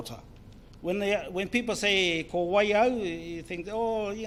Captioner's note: speaks in foreign language